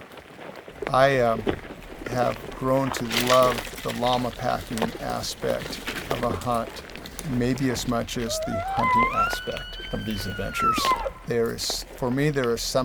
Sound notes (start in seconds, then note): 8.0 hunter Bull Call